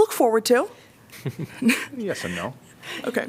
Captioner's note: laughter